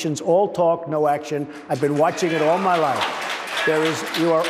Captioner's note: applause